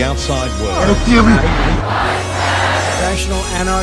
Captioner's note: chanting